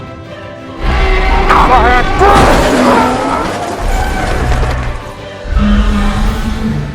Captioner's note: crashing sounds